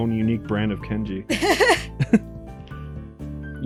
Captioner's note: laughs